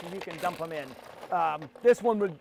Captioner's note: grinder grinding